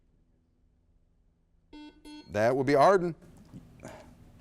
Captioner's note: buzzer beeps